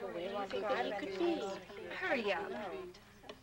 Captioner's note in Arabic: نساء يتحدثن